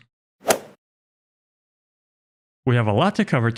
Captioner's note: golf ball hit sound effect